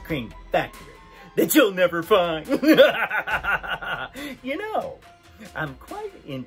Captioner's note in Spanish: risa malvada